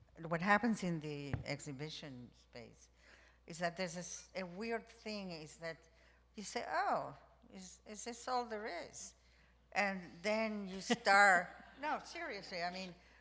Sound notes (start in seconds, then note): none